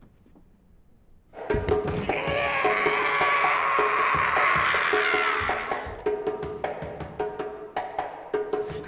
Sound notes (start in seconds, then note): 1.4 drumming music; 1.4 shrieking